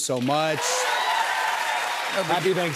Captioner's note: cheers and applause